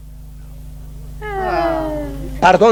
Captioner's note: sighs disappointedly